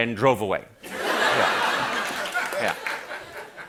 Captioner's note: laughter